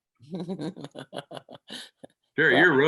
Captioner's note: laughing